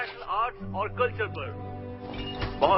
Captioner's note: woman reporting in spanish